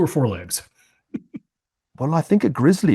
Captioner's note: laugh